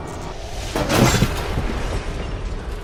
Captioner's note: crash